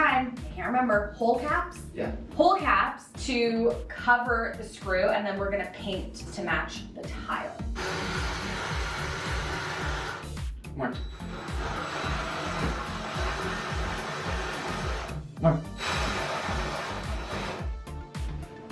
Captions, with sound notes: I can't remember. Hole caps? - Yeah. - Hole caps to cover the screw. And then we're going to paint to match the tile. (tool drilling) - More. (tool drilling) More.